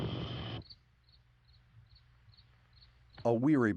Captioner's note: crickets chirping